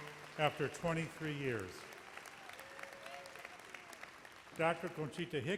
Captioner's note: audience applauds